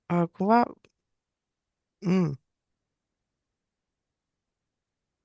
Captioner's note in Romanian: voce dreasă